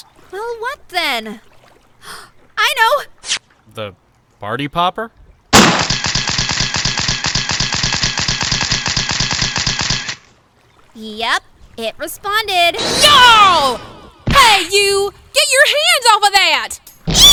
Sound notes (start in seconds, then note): 2.0 gasp!; 5.6 bang!